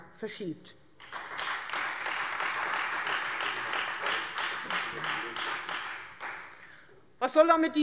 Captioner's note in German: Beifall Freie Demokraten